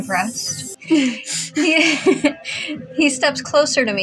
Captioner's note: laugh; chuckle